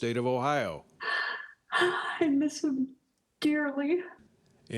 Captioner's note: crying